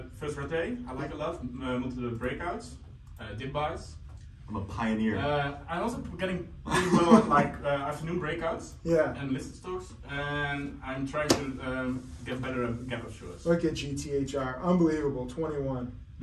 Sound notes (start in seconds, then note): 5.1 laughs